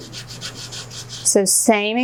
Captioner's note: scrapping